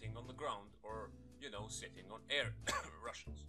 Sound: cough

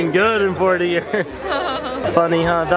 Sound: laughs

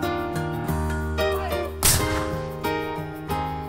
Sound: loud boom!

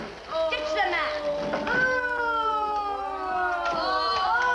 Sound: prisoners groan; door creaks

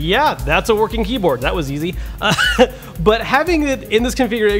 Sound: laughs

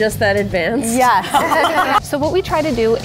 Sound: everyone laughing

